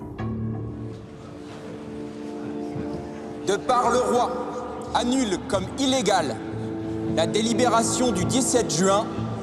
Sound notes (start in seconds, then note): 0.0 tense music; 3.5 man speaking in French; 3.5 tense music